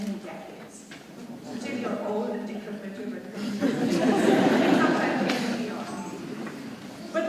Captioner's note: audience laughing drowns out speaker